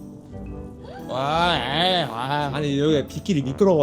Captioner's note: pouring boos